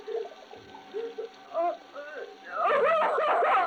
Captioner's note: crying